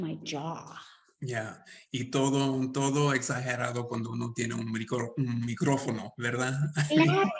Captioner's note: speaking Spanish; Sandra speaking Spanish